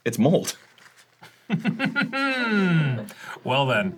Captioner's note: tersely laughs inside